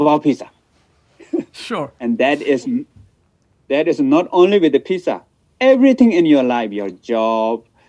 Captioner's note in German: lacht